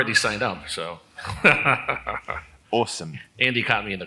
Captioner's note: laugh